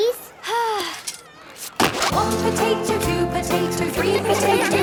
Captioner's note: Belinda sighing; laughter